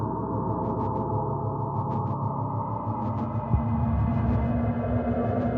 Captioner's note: distorted chilling tone rising